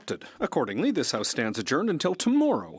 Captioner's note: speaking French